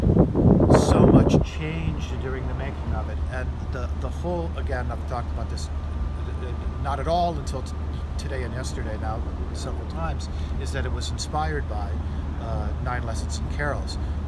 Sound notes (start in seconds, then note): 0.7 wind